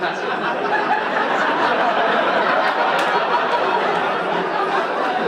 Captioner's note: audience laughing